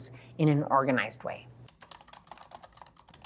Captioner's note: keyboard keys clicking